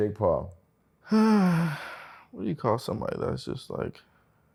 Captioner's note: sighs